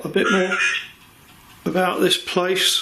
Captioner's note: Voice on Ovilus